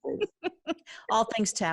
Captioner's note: laughing